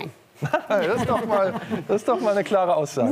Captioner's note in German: Lachen